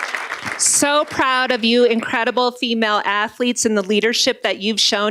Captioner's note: applause